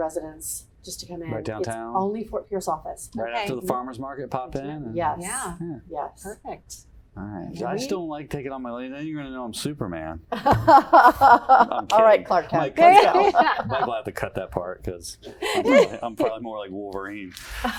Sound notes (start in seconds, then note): 10.7 laugh